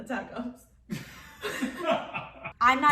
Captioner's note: laughing